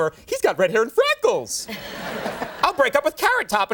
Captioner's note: audience laughing